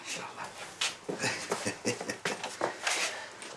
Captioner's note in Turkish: Gülme sesi